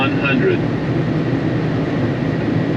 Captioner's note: aeroplane Robot Voice